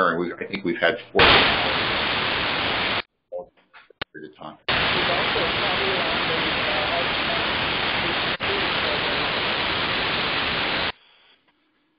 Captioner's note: Static